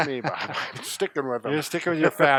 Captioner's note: laughs